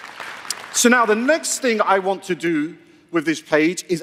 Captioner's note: applause